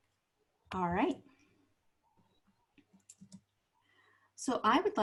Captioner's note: silence